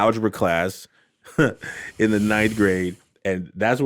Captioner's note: laughs